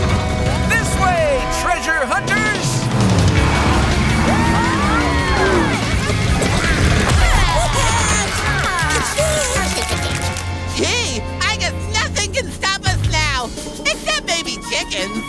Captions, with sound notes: This way, treasure hunters! [cheering] [clicking] Gee, I guess nothing can stop us now. Except baby chickens.